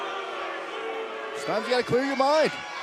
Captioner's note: fans boo